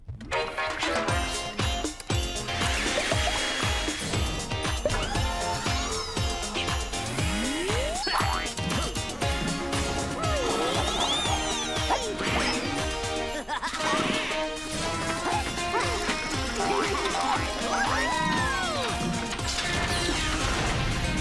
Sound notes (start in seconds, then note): 0.1 upbeat music; 12.9 chuckling; 16.5 boing!; 17.2 cheering